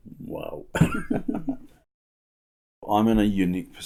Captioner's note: quiet laughter